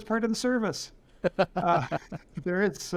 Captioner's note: laughter